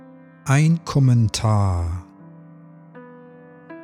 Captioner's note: german